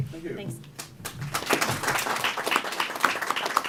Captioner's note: applause